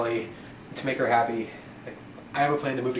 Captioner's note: none